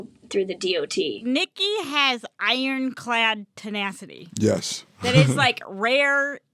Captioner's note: chuckles